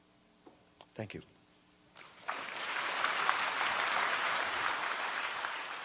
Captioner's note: audience applause